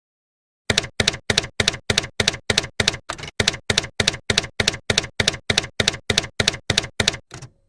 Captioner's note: typewriter keys clacking